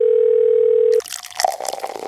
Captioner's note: phone ringing; liquid pouring